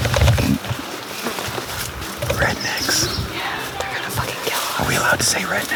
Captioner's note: woman singing country music; whispering